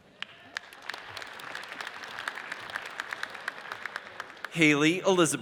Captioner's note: audience applauds